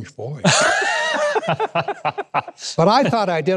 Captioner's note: laughing